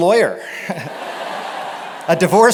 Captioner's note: laughter